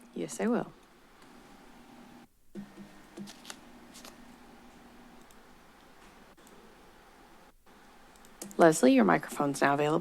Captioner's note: silence